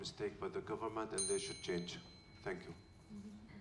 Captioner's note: bell rings